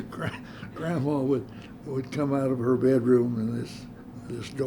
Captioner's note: laughter